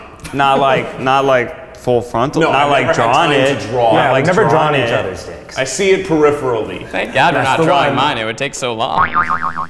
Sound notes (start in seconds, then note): 9.0 boing